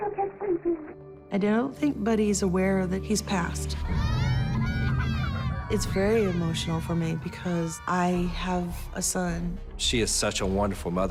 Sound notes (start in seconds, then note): 3.7 children crying